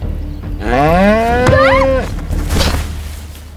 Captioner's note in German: Lautes Muhen, Schrei